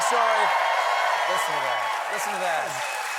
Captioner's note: cheers and applause